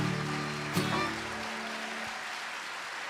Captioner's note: applause